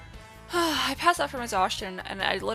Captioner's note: sigh